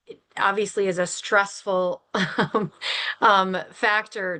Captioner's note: chuckles